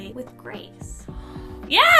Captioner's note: gasps